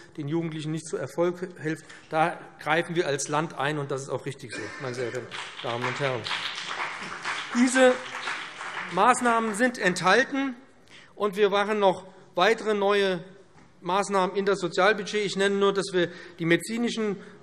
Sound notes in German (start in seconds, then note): 6.8 Beifall BÜNDNIS 90/DIE GRÜNEN und vereinzelt CDU